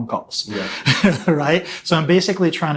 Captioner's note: laughing